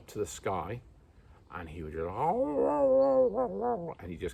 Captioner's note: howl and whine sounds